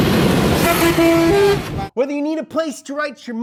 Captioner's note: engine roaring; truck honking